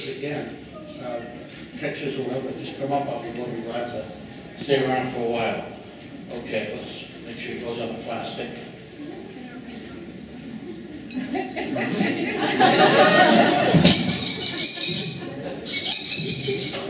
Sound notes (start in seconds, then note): 11.1 laughing; 13.9 kestrel Call